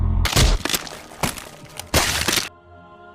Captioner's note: crack